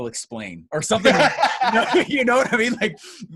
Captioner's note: laughs